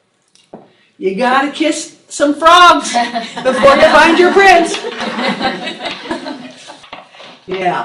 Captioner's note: laughing